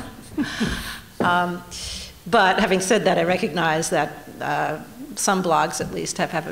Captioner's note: laughter